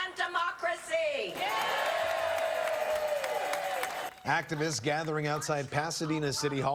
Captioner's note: cheers and applause